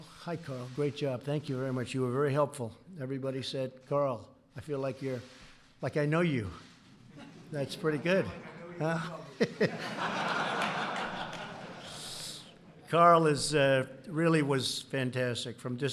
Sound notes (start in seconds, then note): 7.1 laughter